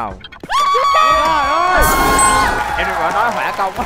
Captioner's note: yelling, clapping